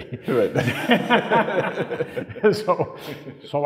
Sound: laughing

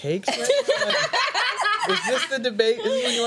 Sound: laughing

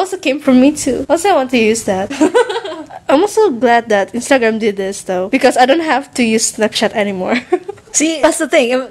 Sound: giggles

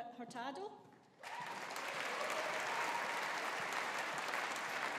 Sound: audience applauding

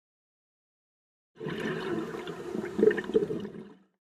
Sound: underwater exhalation

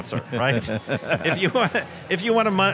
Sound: laughs

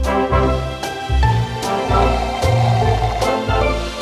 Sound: straw slurping

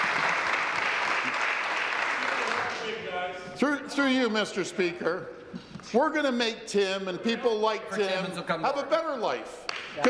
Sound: applause

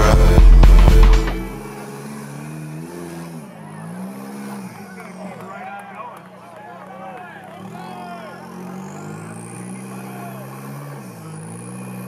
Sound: truck sounds

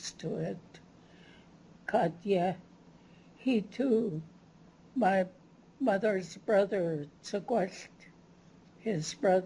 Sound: non-english

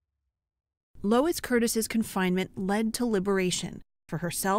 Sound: voice-over

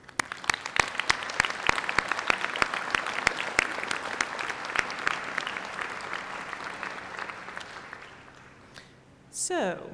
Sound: applause

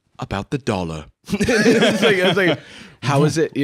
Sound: both laughing

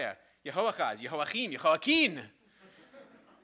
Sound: speaking in a foreign language; crowd laughing

